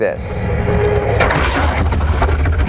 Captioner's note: engine running; scraping